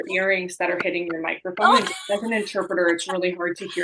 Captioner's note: laughter